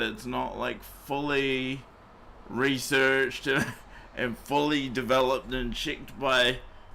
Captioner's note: chuckling